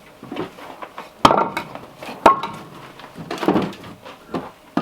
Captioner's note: logs thudding